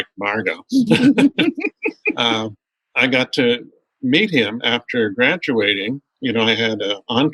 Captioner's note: laughter